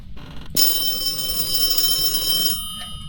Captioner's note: phone ringing